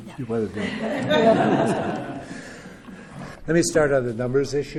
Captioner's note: laughter